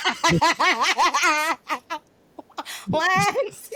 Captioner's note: laughing